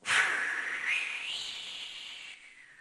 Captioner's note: exhales